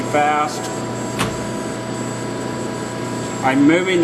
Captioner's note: machine whirring